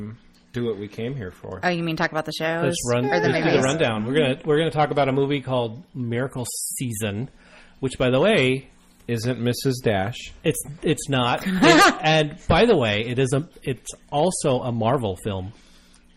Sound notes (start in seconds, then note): 11.4 laughs